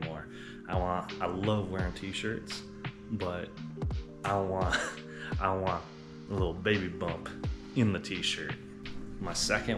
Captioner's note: laughs